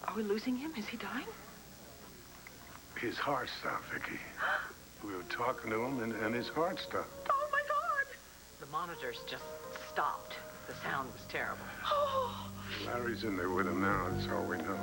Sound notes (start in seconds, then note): 4.4 niki gasps